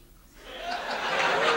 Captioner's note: audience laughs